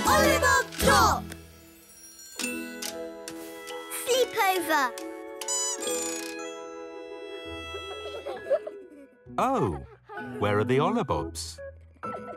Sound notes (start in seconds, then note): 2.5 lulling music; 5.5 bird squeaks; 7.2 giggling